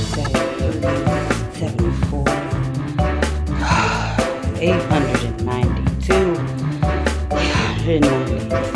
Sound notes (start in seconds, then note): 3.5 sighs